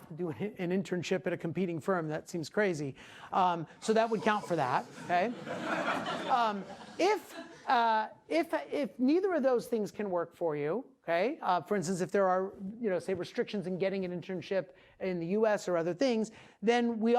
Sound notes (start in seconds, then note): 4.1 class laughing